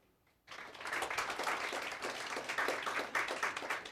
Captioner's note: applause